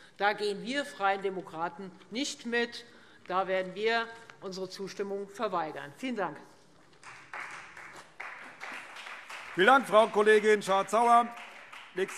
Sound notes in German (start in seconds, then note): 7.0 Beifall Freie Demokraten